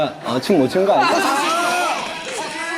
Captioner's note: laugh